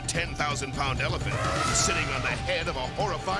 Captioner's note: elephant trumpeting